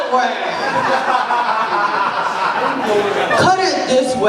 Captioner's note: laughter